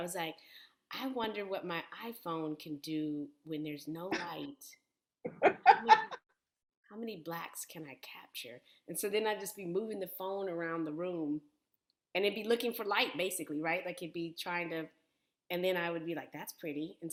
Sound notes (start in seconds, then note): 5.2 laughter